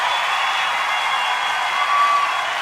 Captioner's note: cheering and applause